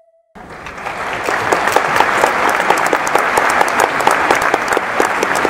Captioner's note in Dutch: applaus